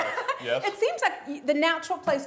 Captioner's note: laughs